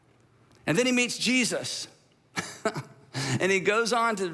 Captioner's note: laughs